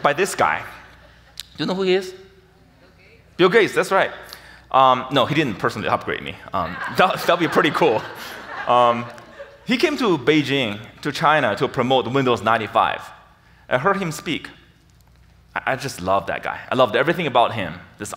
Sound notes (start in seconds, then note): 6.5 audience laughs